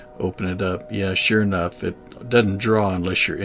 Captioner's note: train horn blaring